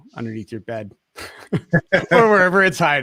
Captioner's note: all laughing